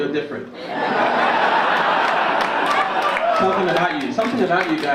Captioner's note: audience laugh and cheer